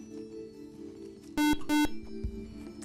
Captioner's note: buzzer